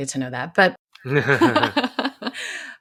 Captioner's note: laughs